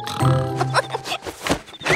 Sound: snoring; giggling

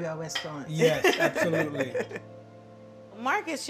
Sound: laughs

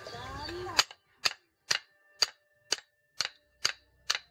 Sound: clanking

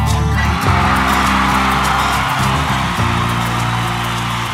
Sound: cheering

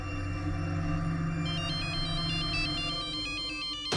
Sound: phone ringing

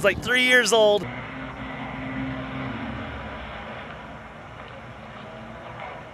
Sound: jet ski engine revving

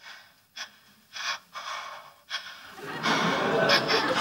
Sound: Amy panting

